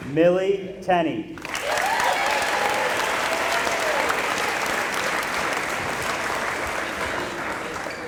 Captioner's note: applause